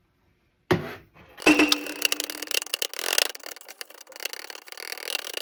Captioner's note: hammering again